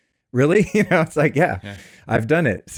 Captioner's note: laughs